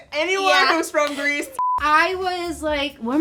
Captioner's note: screen beeps